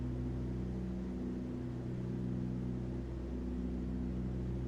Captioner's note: aircraft engines sounding